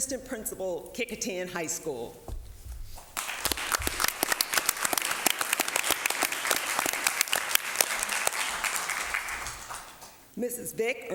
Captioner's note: applause